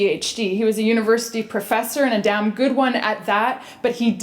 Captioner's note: none